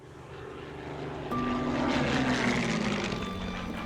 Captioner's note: plane engine humming; mysterious music